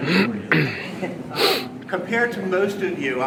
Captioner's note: clears throat